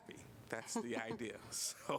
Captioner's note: laughter